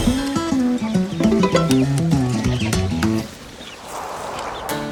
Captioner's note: notification